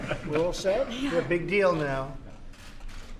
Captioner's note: laughter